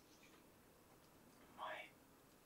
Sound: whisper

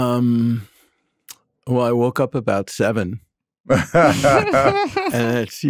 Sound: group laughing

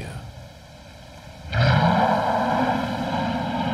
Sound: growls

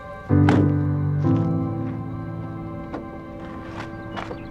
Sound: car door slams

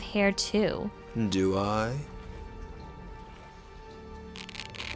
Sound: velcro ripping

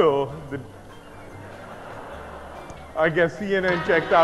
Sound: audience laughing

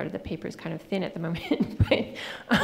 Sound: laughing

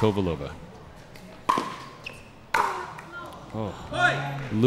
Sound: ball bouncing

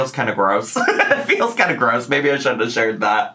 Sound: laughs

